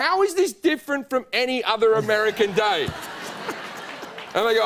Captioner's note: laughter